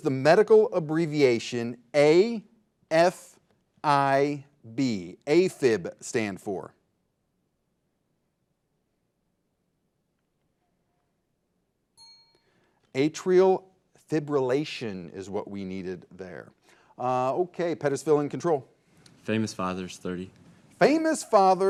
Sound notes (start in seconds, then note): 11.9 bell dings